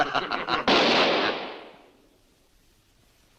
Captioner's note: gunshot